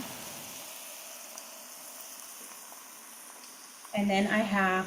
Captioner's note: food sizzling